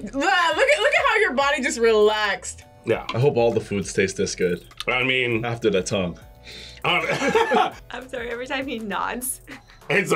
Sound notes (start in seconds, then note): 6.9 both laugh